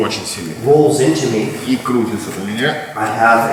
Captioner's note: speaking in a foreign language